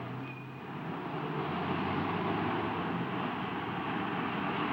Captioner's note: bus brakes screeching